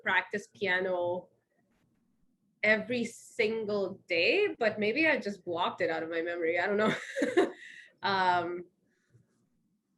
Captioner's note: laughs